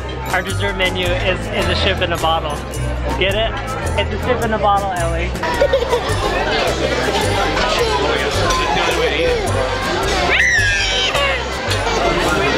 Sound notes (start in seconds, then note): 5.4 laughing; 10.3 yelling